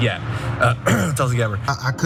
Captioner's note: cough